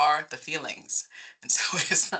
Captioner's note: laughing